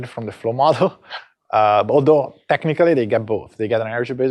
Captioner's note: chuckles